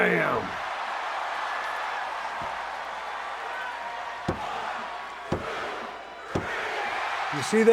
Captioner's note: applause